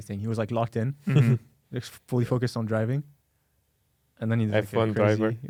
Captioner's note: laughs